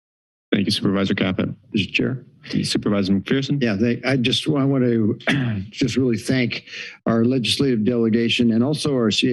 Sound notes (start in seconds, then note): 5.2 clears throat